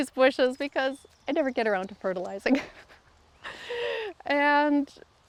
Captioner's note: laughs